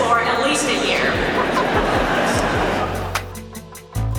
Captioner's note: crowd laughs